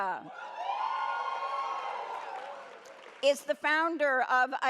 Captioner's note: audience cheers